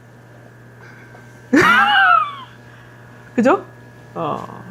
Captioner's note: laughs